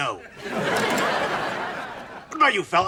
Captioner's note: audience laughs